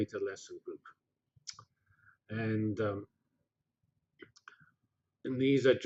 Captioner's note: pause